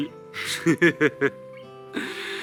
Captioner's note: laughs